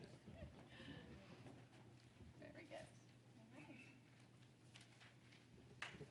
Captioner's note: laughter